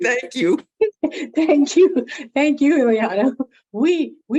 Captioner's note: laughs